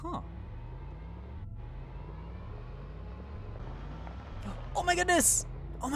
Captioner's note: car engine roaring